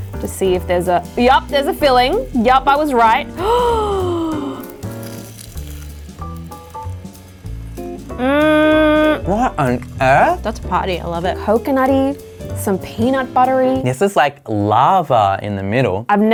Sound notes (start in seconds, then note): 3.3 gasps; 4.9 food crunching